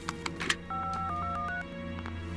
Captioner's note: dialing